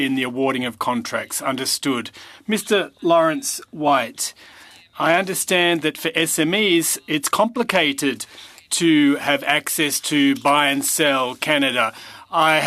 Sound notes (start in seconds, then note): 5.4 speaking french